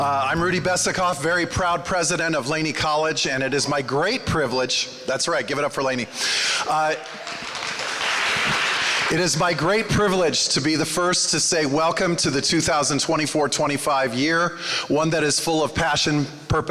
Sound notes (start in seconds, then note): 6.9 applause